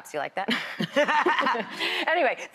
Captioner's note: laughs